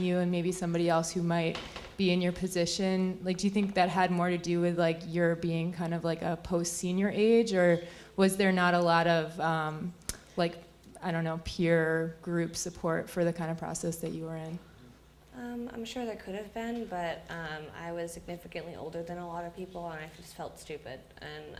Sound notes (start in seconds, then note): none